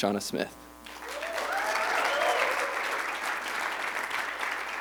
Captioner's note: applause